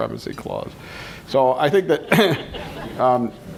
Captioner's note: laughter